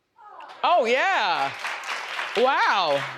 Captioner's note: audience applauds